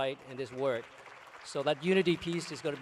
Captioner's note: applause